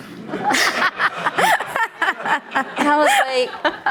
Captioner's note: audience laughing